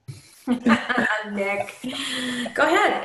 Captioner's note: laughs